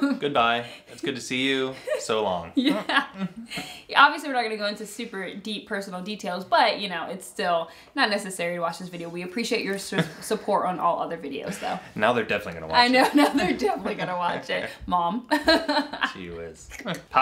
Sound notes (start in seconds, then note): 0.0 laughs; 2.5 laughs; 10.6 laughs; 15.3 laughs